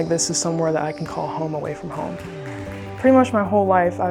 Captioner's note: hands clapping